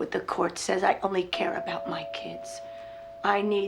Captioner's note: doorbell rings